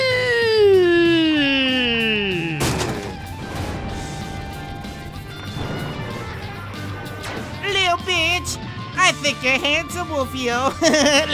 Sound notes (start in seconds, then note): 2.6 body thumps; 4.3 rock music; 10.6 giggles; 10.6 laughs